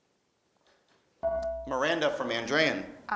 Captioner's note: beeping